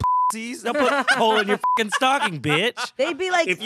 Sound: beep

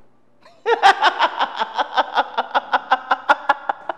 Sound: laughing

